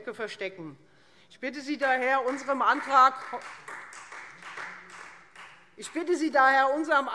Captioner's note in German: Beifall